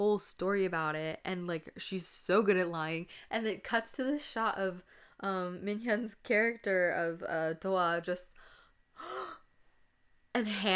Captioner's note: gasps